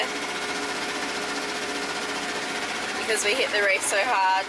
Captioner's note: motor whirring